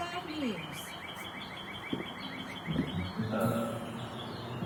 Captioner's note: birds chirping